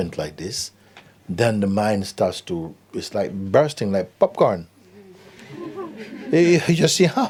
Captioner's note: laughter